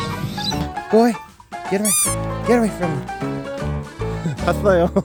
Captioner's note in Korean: 알아듣고 기분나빠서 재채기 ㅋㅋ